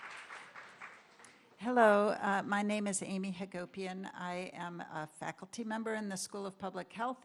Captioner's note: applause